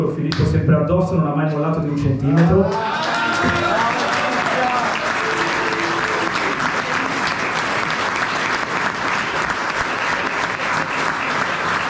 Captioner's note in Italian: Applauso